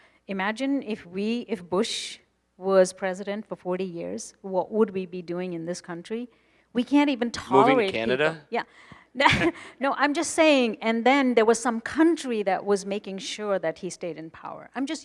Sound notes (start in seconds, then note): 9.5 laughing